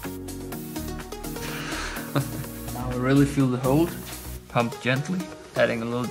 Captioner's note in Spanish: risas